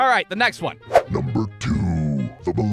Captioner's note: evil voice